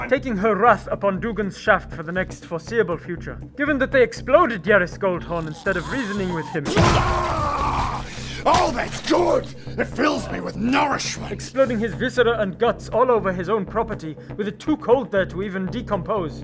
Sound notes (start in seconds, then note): 5.4 bwaargaagrhghhh!!; 6.8 pop!